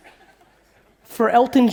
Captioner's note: audience laughing